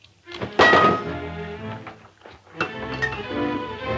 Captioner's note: metal clanging; dramatic music